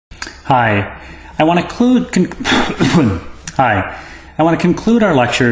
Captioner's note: cough